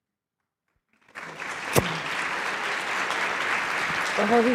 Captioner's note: applause